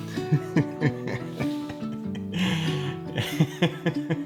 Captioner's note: gentle music continues; laughing